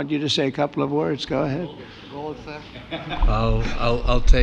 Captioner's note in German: lacht